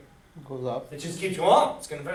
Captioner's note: voiceover